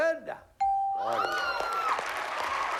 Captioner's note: applause